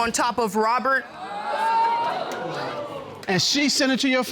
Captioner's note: audience exclaiming